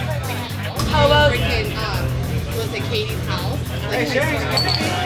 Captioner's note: chatter